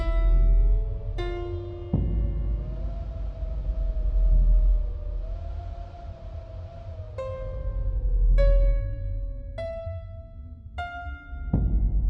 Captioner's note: wind blowing; ominous music